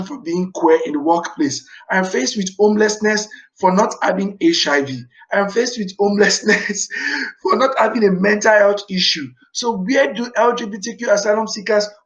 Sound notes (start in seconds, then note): 6.2 laughs